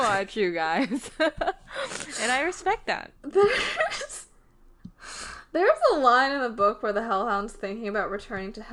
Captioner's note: laughs